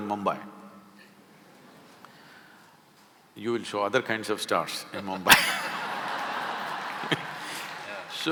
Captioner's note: laughter